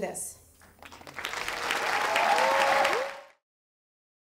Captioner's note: crowd applauding